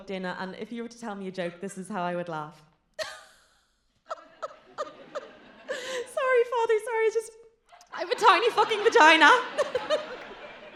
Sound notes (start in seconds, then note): 4.0 giggles; 9.7 giggles